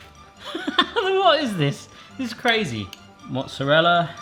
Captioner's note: laughs